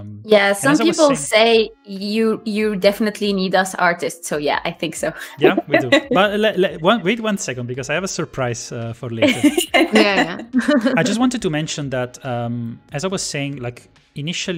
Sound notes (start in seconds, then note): 5.3 laughs